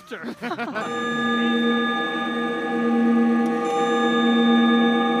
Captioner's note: clock strikes